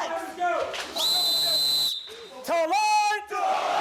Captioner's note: whistle blows